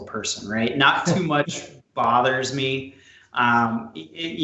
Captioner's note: chuckles